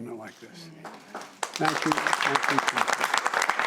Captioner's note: applause